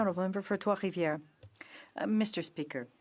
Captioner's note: speaking French